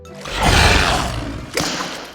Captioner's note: roars; smack